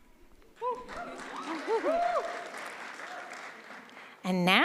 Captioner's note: cheering